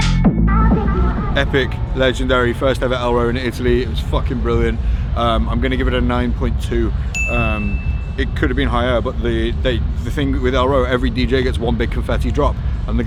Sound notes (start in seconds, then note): 7.1 graphic dings